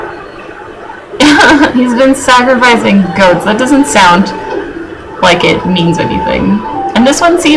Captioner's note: laughs